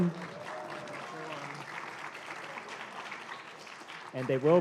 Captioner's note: applause